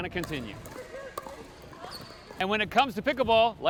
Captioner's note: balls bouncing